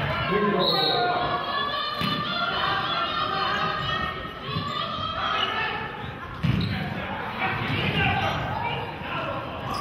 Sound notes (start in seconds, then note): 0.6 whistle blows